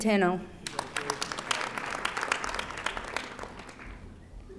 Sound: audience applauding

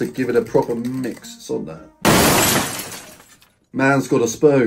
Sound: glass smashing

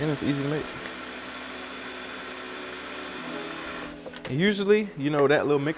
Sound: blender humming

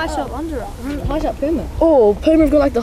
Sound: chatting

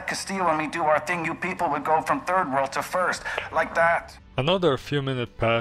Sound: snaps fingers

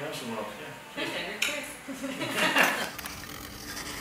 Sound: laugh

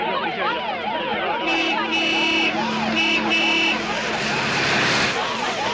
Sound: Jeep honking

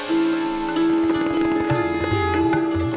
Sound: conch blows

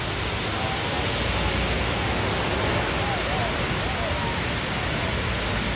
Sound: water continues roaring

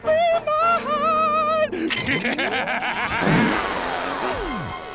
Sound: evil laugh

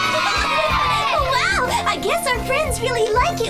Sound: giggles

